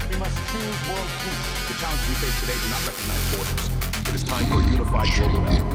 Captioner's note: speaking in tongues